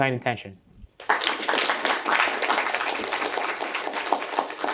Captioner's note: applause